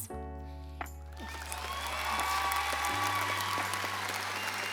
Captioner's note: audience applauds